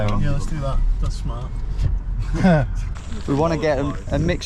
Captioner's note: chuckles